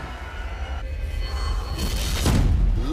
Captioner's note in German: Gespannte Klänge, dumpfer Laut